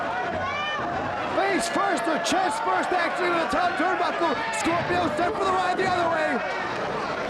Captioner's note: presenter speaking faintly off mic